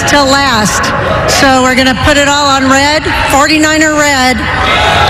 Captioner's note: boooooo